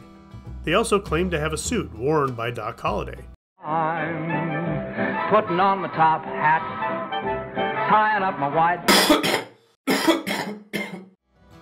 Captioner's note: cough cough